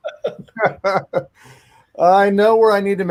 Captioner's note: panelists laugh